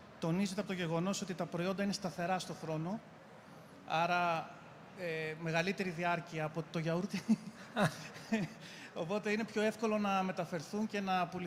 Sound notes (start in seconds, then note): 7.8 laughs